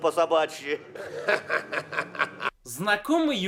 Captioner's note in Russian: смех